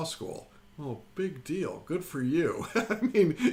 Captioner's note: laughs